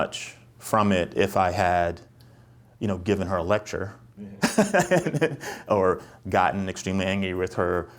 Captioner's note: chuckles